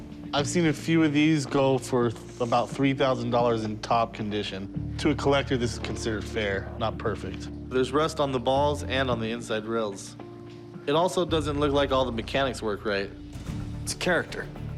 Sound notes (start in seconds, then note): none